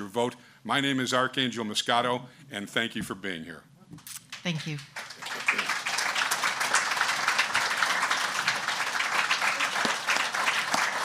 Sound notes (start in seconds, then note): 4.3 audience clapping